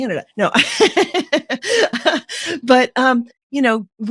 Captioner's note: laughing